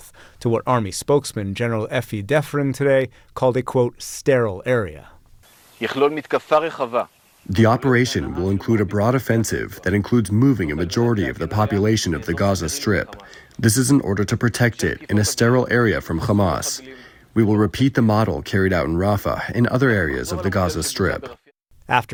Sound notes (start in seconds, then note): 8.0 through translator